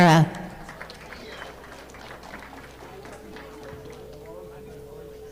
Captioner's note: audience clapping